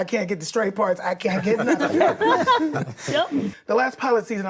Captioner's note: group laughs